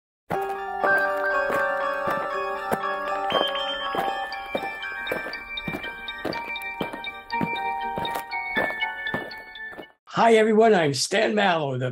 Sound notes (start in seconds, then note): 0.3 eerie Music; 5.0 aliens marching